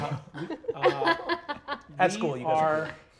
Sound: players laughing

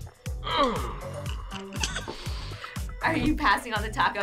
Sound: laughs

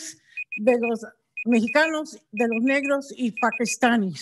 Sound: beeper beeping

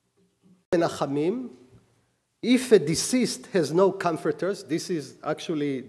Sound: speaking hebrew

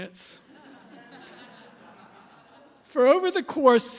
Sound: laughter

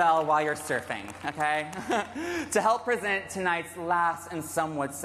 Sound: cheers and applause

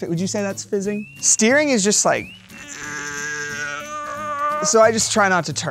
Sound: grunts

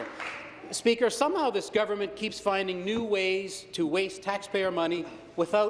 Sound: applause

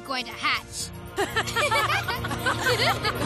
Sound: laughter

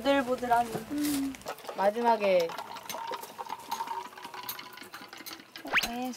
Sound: glug glug

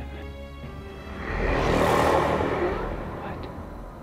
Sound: scary ghostly sound

